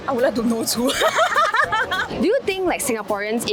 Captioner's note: relatable laughter